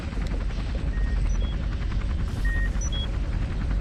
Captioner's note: machine beeping